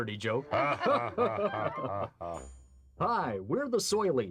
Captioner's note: laughter